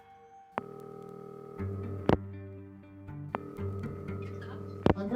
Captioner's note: phone ringing